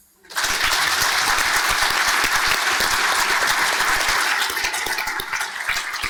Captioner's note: panel and audience clapping